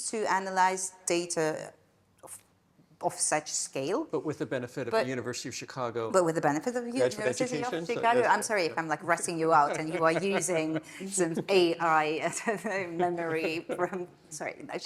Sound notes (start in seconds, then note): 9.6 laughing